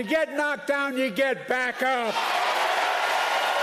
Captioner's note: applause